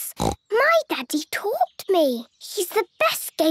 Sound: snorts

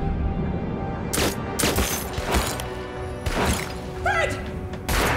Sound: gun firing

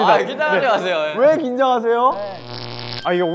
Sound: electric shock

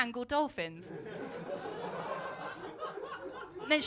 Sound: laughter

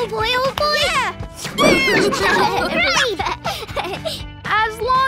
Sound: cheering

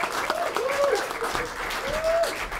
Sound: applause

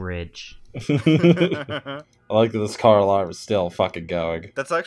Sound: laughter

